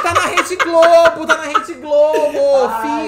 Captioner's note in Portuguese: gargalha